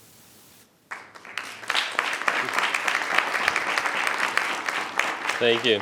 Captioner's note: audience applauding